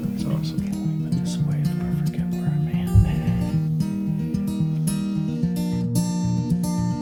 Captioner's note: voiceover